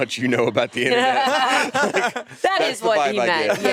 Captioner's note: all laughing